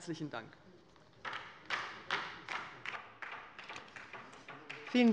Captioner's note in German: Beifall bei der LINKEN